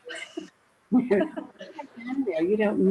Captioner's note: laughing loudly